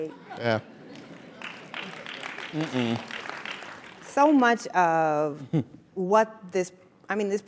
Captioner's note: applause